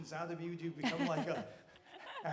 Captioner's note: Laura laughing